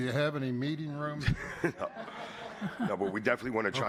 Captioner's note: laughter